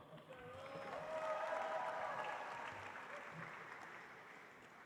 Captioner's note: audience applauds